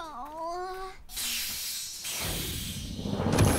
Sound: UFO hisses; epic music

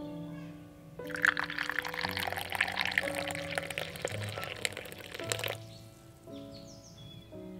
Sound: tea pours into tea cup

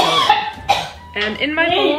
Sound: coughing

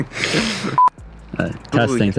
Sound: laughing; tone beeping

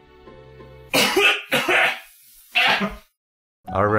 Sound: violent gagging

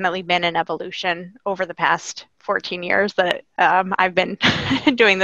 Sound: laughing

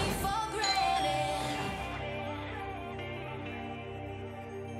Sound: doorbell ringing

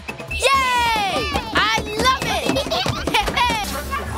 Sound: laughter

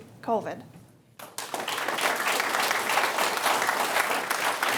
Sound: audience clapping

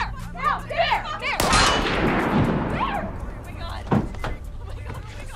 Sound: gun banging

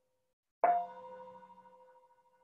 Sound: chime

